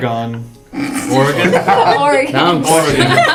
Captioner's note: laugh